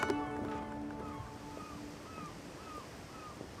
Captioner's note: seagulls cry